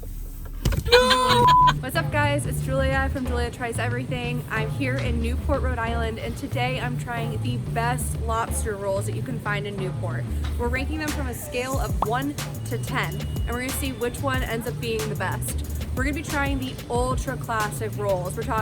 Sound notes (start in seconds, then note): 0.4 thumps; 0.8 laughs